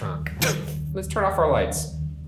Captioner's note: coughs